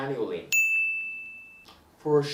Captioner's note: bell rings